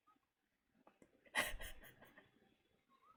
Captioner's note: laughs